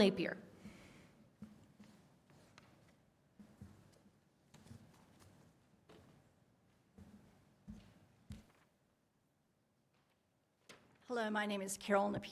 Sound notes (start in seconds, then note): 1.3 quiet room